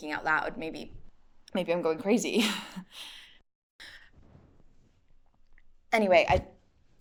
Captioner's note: chuckles nervously